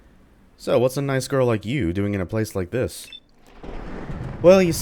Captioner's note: thunder